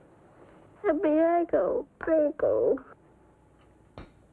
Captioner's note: speaking foreign language